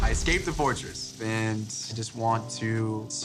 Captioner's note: none